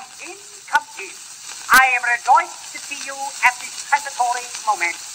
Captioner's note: recording Plays